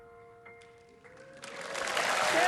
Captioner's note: song ends gently; cheering and applause